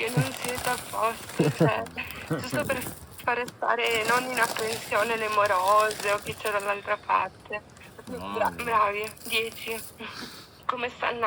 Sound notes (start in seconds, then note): 2.7 sarcastically